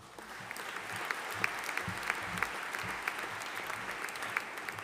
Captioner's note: audience applauding